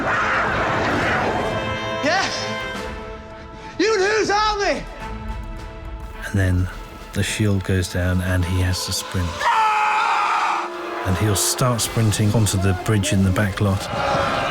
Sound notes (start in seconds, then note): 9.3 screaming